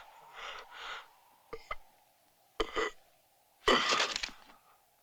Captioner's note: grunting